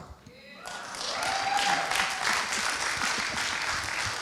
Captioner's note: applauding